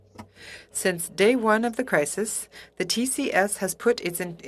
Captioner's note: speaking FRENCH